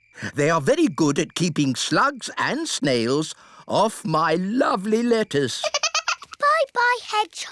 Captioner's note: giggles